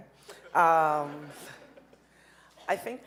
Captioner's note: audience laughing